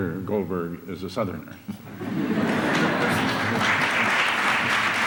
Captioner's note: applause